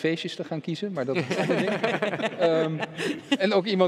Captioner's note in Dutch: ze lachen